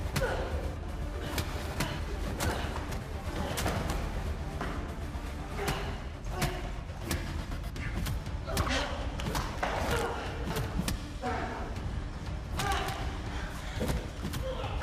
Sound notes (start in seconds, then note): 0.2 blows thudding; 0.2 tense music continues; 6.5 blows thudding; 6.5 tense music continues